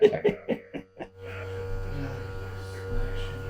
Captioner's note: presenter laughing; machinery buzzing; installers chattering